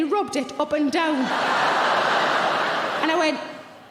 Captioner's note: audience laughing